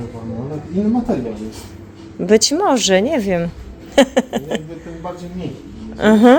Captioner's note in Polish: śmiech